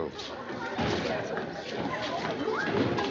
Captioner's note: chattering